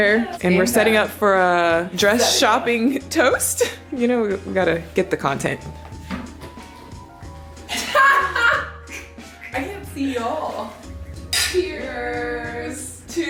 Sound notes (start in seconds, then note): 7.7 laughing